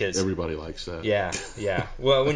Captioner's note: laughs